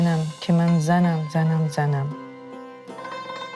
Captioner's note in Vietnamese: Tiếng Afghanistan